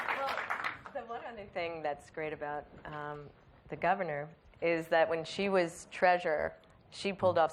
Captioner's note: applause